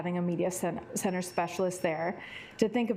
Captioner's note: alarm beeping